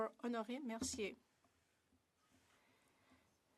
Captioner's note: speaking French